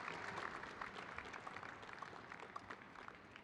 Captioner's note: audience applauding